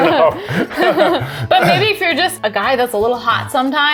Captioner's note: laughs